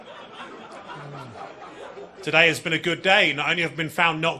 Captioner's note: audience laughing; comedian laughing